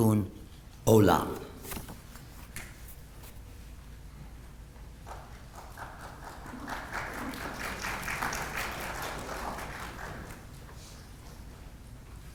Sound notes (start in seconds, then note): 8.2 applause